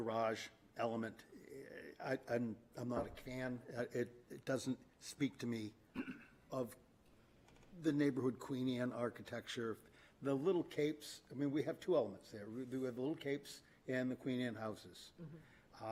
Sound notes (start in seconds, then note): 5.9 clears throat